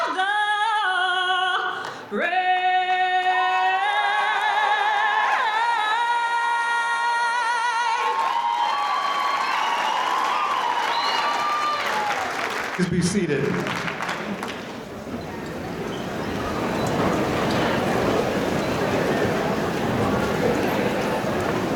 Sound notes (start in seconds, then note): 0.3 audience cheering; 6.6 cheering